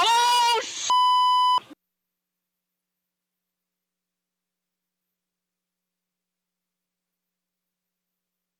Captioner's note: screaming